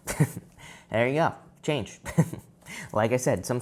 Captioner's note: giggles